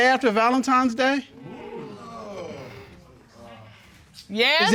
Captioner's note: audience exclaims